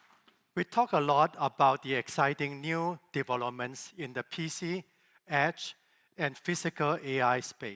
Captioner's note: applause